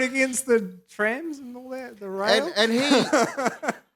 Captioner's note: laughs